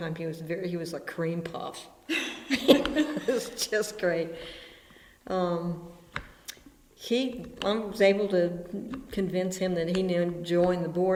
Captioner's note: BOTH laugh